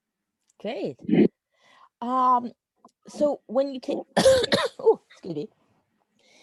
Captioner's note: coughs